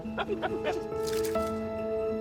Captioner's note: laughter